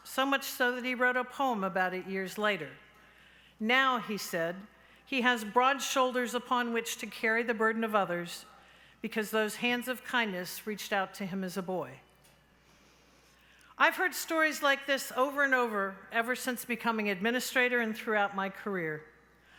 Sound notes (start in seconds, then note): none